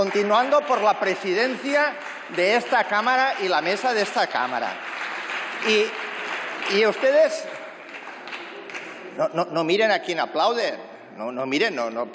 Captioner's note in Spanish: Aplausos